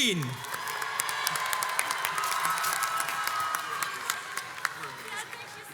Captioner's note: crowds cheers and applauds